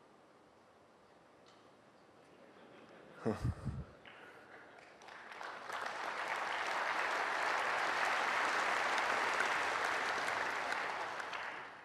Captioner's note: applause